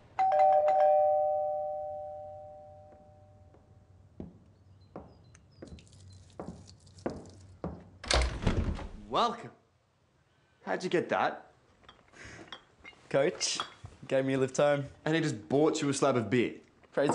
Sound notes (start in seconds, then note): 0.1 door bell ringing; 4.2 feet stomping; 12.4 bottles clinking